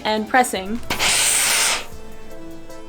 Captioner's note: steam PSSSHHHHHH sound of iron